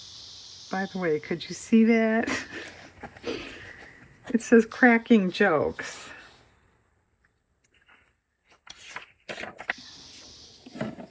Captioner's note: laughs